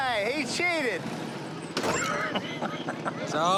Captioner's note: laughs